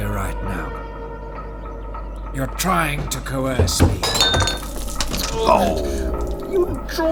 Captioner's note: staggering. Sound of paper falling; mocking